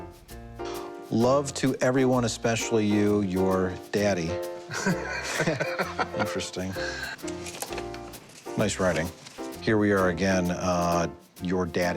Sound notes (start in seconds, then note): 4.7 laughs